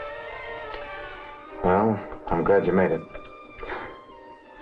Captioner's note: Morris chuckling